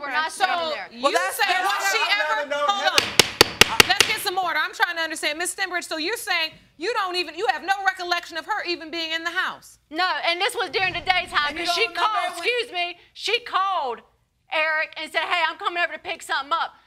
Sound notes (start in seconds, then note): 1.1 all shouting; 3.0 banging gavel